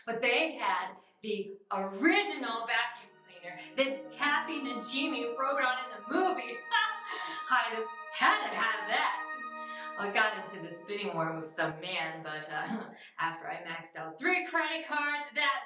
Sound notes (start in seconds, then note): 7.0 laughs; 9.5 mysterious music